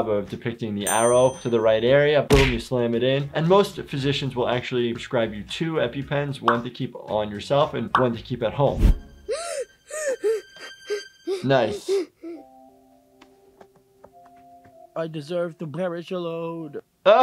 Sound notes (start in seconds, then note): 9.2 gasping